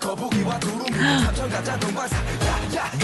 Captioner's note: gasp